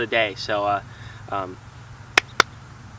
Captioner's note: two claps